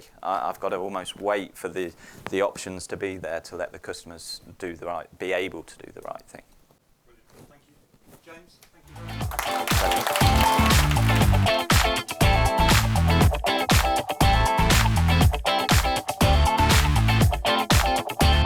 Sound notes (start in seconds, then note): 8.9 audience applauds; 11.4 upbeat music